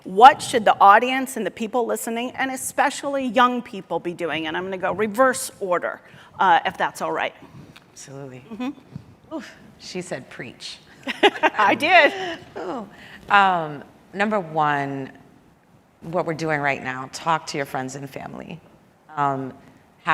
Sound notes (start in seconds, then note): 11.1 laughs